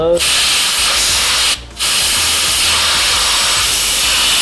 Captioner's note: loud air rushing